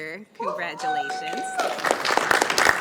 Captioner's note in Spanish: aplausos